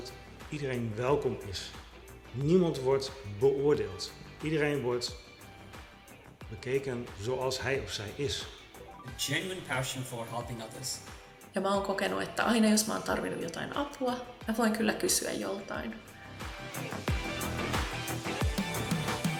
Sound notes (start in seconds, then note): 0.1 speaking foreign language; 11.7 speaking foreign language; 16.7 upbeat music